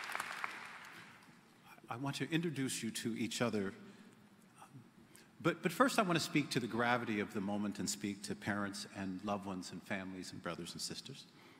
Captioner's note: applause